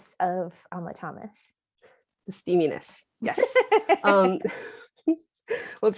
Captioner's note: laughter